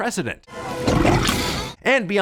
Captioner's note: gurgles